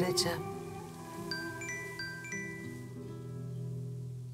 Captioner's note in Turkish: Telefon çalıyor